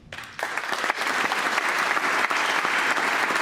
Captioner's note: applause